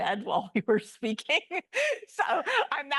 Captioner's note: laugh